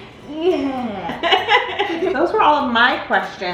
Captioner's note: laughs